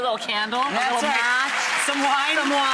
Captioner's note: audience applause